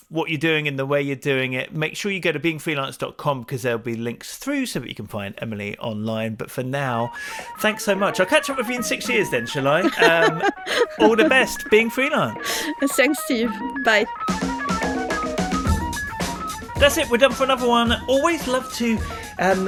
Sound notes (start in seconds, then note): 8.8 laughs; 14.7 outro music